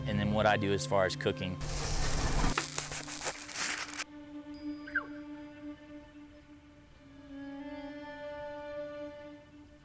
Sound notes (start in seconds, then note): 1.6 meat sizzling; 1.6 knife scraping; 3.9 foil crumpling; 5.1 elk calls